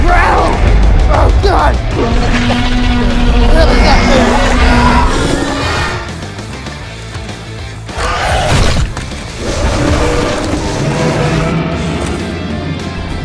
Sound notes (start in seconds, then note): 1.9 dinosaur roar; 5.1 dramatic music; 9.3 dinosaur growling